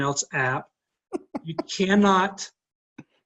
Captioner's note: laughing